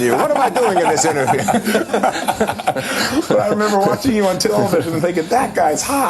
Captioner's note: laughter